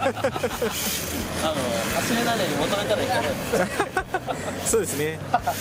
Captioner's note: laughs